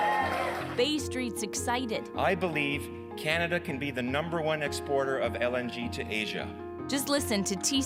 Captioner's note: cheers and Applause